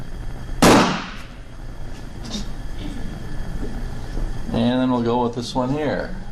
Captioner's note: small explosion pops